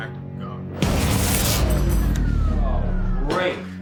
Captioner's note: electricity fizzles; fuses blowing